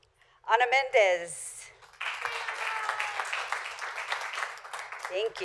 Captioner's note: applause